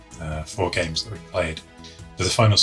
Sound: none

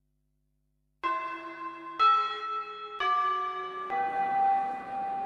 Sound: the bell signalling the end of class

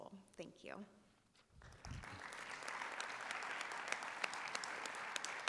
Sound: audience applauding

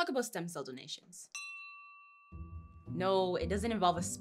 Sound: bell dings

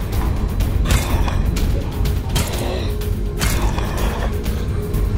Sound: violent flashlight hits

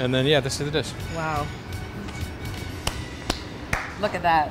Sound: claps hands

